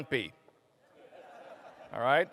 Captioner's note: laughter